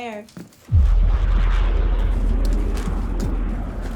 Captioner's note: planes whooshing